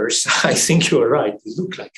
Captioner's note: laughs